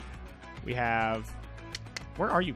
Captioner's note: clicks tongue